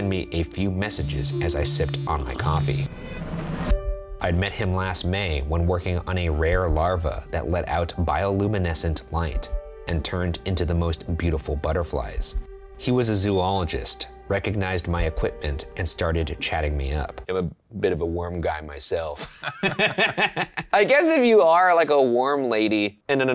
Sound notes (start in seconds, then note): 19.2 laughs